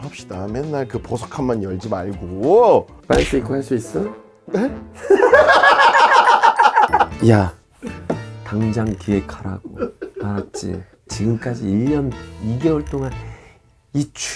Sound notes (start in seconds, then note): 5.0 laughing out loud